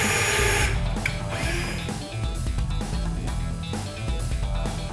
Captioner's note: sounds of tools